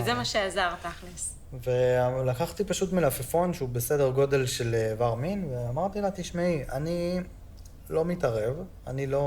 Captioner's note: Hebrew